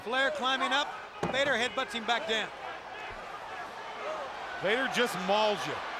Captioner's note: crowd clamoring